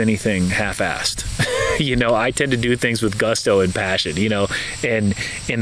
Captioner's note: chuckles